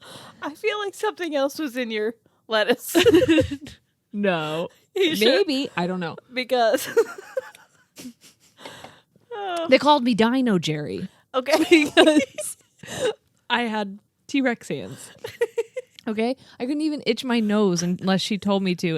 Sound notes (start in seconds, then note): 2.9 laugh; 11.5 laugh